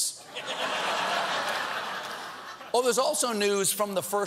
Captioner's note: laughter